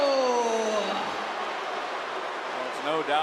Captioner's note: crowd boos